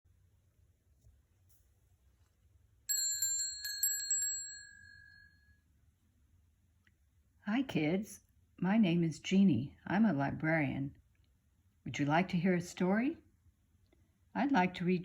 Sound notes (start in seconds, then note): 0.0 bell ringing